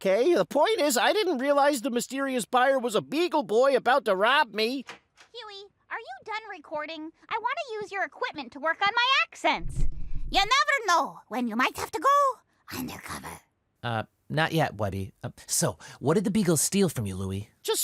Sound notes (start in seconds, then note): 9.6 bad scottish accent; 12.3 whispered